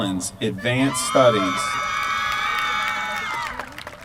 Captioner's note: applause